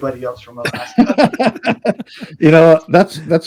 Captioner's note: both laughing